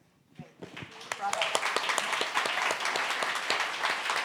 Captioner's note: audience applauds